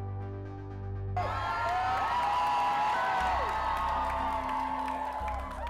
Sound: volunteer crowd cheers

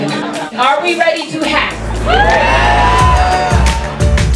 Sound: crowd cheers

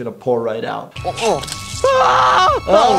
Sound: blood squirts; screams

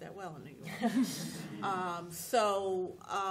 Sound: laughter

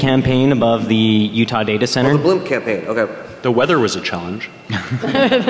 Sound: laughing

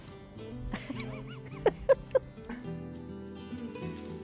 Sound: laughs

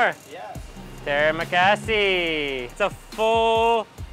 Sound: speaking in foreign language

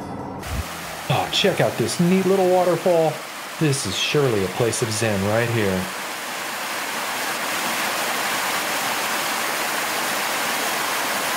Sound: waterfall Sound

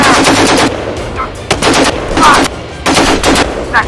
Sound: rapid Gunshots; gunshot sounds

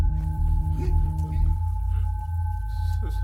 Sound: Malay Language

